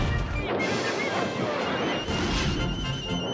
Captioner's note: indistinct shouting